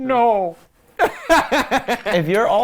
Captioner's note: laughs